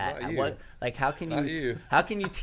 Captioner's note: laughs